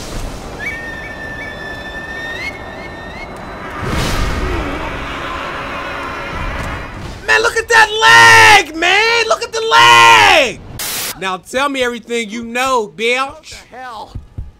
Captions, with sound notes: Man, look at that lag, man! Look at the lag! (static) Now, tell me everything you know, bitch. - What the hell.